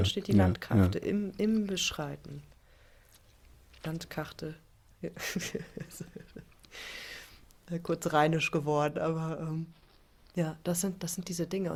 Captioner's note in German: gelächter